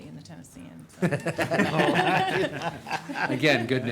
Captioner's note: group laughing